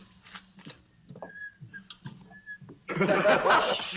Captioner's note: whistling; laughter